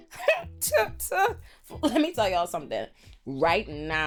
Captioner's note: laughs